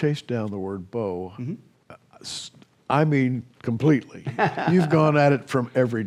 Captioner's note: laughs